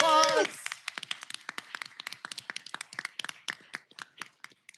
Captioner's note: applause